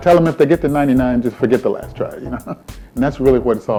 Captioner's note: laughing